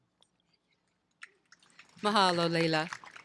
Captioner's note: applause